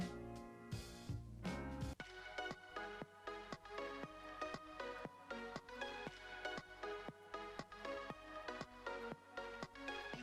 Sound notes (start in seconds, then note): none